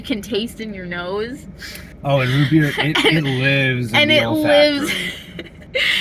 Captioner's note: laughing